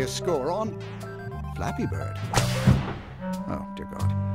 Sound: whip crack sound

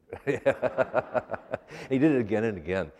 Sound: laughter

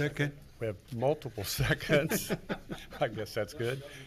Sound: laughs

